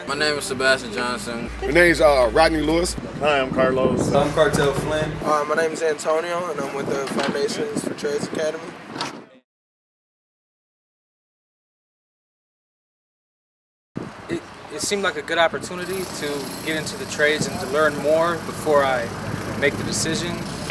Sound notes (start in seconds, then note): 9.0 silence